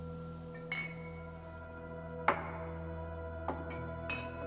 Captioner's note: bottles clinking